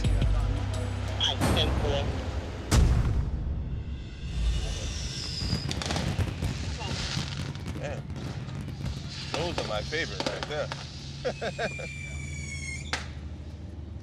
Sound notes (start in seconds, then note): 5.6 fireworks exploding; 11.1 laughs